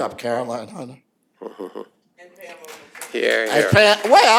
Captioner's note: applause